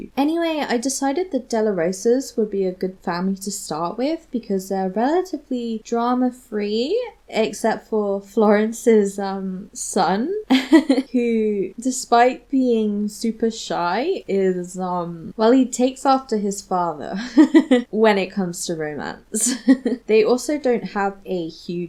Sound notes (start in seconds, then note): 10.5 giggles; 17.2 laughs